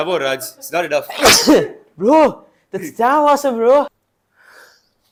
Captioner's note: huge sneeze